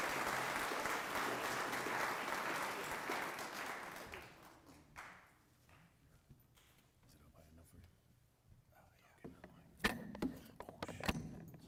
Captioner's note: applause